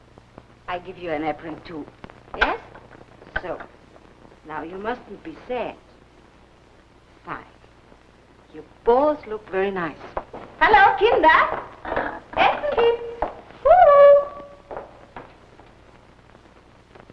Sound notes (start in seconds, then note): 14.1 footsteps